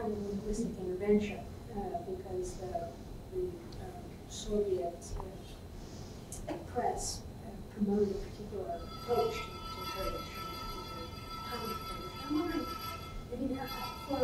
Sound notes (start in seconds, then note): 9.6 ? Kurdish ?; 10.8 ringing